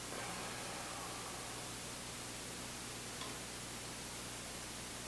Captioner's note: exhaling